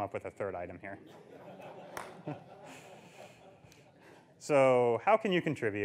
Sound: audience laughs

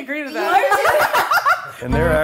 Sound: laughs

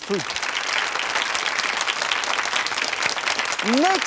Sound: applauding

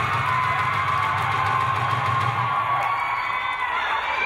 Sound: crowd cheering

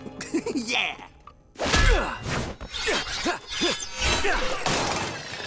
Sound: giggling; grunting

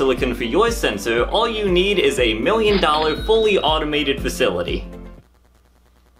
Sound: cha ching

